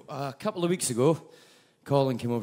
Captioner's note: none